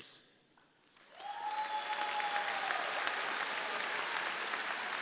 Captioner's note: audience cheering